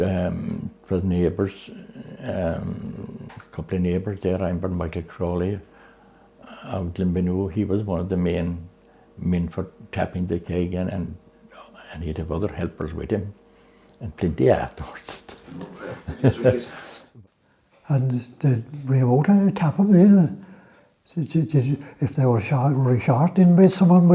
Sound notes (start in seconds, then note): 15.6 laughter